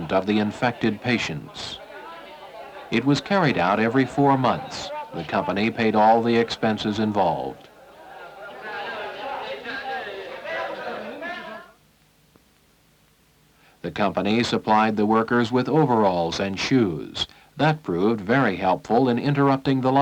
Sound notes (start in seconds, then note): 7.1 indiscriminate chatter